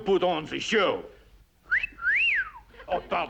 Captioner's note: wolf whistle